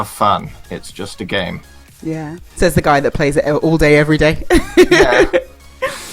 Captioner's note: laughs